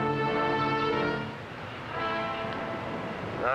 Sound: cars driving past

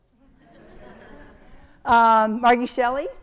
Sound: audience laughing

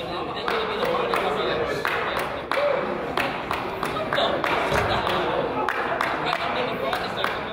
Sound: crowd chatters; person applauds

